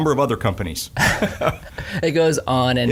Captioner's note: laughing